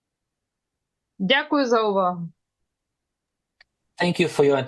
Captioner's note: foreign language